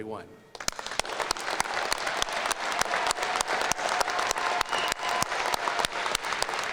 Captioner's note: applause